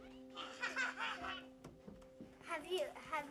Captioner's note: girl laughing